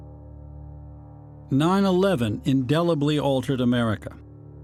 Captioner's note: voice-over